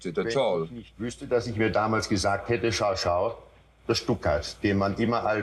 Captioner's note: Eichmann speaking German